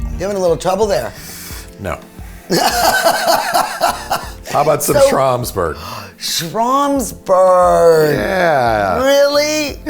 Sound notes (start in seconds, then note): 2.5 laughing